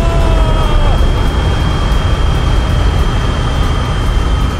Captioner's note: Papa Zola shouts, straining; boosters roaring